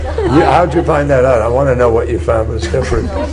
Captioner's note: laughter